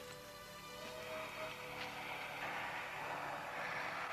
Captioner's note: undead moaning